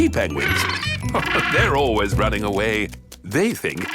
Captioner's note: laughing